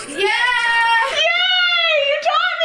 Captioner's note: girls scream in joy